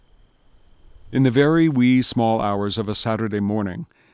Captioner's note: voiceover